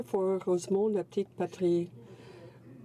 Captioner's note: speaking French